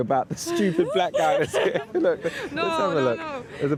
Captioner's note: laughing